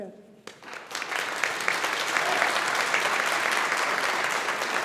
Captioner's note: audience applauding